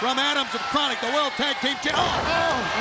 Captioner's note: crowd chatter